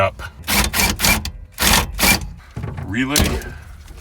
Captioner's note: drill torquing